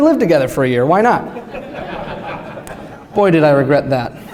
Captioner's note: laughter